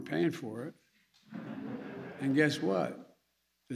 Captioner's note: laughter